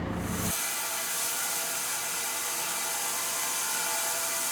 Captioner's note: machinery whirring